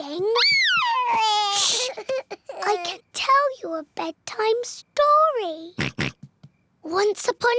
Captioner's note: cries; oinks